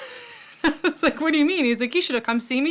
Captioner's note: laugh